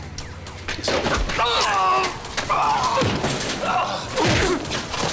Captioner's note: Lamont cries out